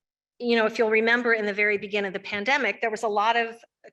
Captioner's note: none